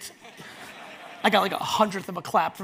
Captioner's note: audience laughs